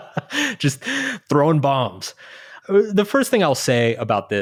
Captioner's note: chuckling